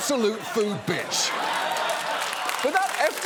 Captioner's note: laughter